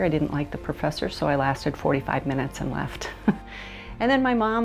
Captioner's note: chuckles